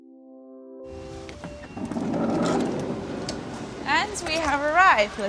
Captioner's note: door rollers sliding